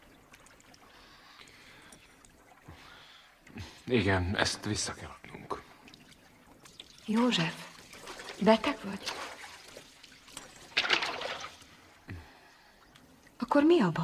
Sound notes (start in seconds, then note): 10.7 toy splashes